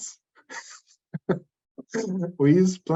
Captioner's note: laughs